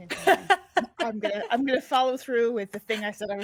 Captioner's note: person laughing